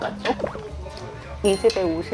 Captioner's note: refreshing gulp